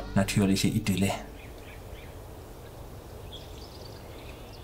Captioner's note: music stops, birds chirping